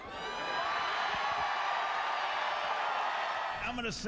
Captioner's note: cheering